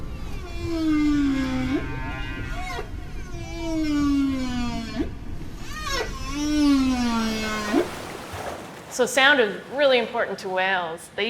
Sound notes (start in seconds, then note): 0.2 whale calling; 6.6 water splashing